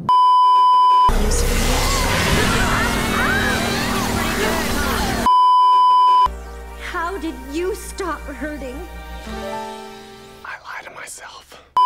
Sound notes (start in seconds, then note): 1.4 lots of screaming; 5.2 beeeeeep